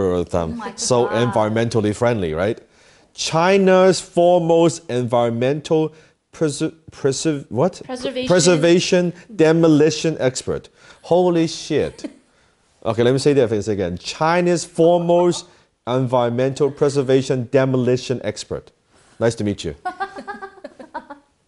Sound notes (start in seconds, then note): 11.7 ladies giggle softly; 19.8 laughs